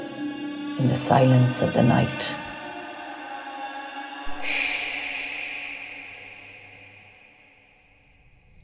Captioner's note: as banshee, wailing; soundbite of fire crackling, crickets chirping